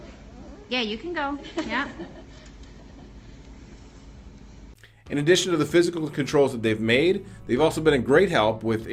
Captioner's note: laughter